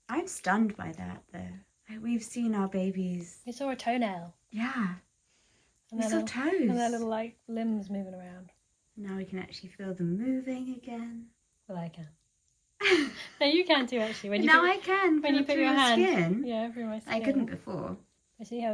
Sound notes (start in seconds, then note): 12.8 laughs